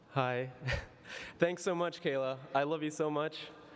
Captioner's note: laughs